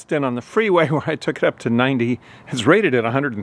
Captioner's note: laughs